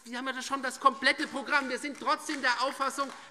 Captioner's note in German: Demonstrativer Beifall DIE LINKE